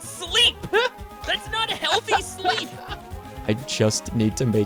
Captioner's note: laughs